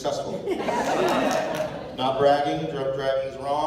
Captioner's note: laughter, applause